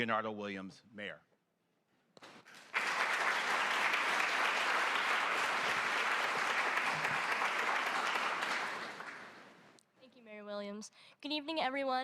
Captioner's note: applause